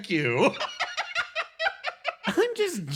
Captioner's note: laugh